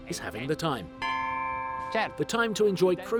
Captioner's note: bell rings